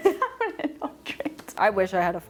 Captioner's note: laughing